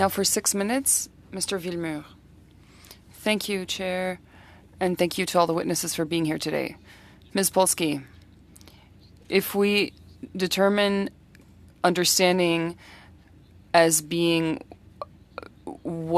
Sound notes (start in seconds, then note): 4.2 speaking French